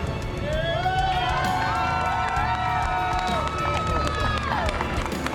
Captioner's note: crowd cheering and applauding